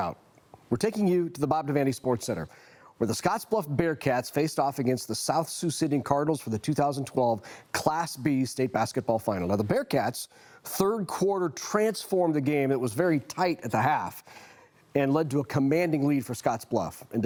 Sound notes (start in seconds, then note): none